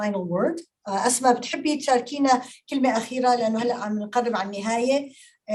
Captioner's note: speaking Arabic